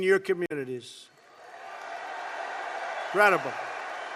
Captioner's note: applause